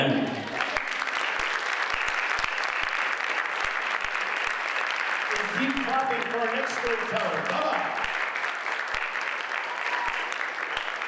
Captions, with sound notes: The end. (audience applauds) Keep clapping for our next storyteller, Bubba.